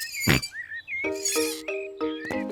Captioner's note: oinks